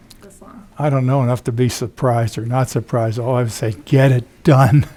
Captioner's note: laughs